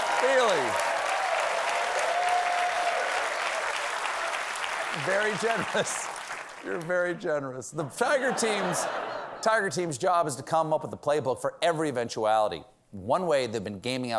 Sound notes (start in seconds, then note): 2.8 applause; 7.9 laughter